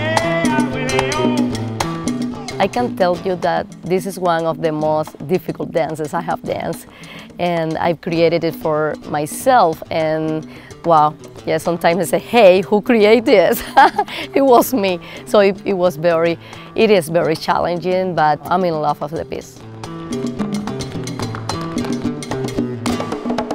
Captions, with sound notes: (Afro-Cuban music playing continues) I can tell you that this is one of the most difficult dances that I have danced. And I've created it for myself and...wow! Yeah, sometimes I say, "Hey, who created this?" (laughing) It was me. So it, it was very...it is very challenging but I'm in love with the piece. (Afro-Cuban music playing)